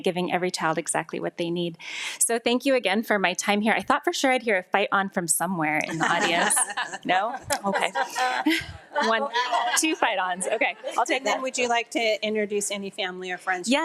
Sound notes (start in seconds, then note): 5.8 attendees laughing